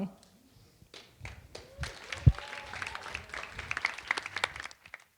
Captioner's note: audience applauding